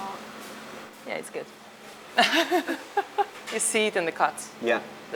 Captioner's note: chuckles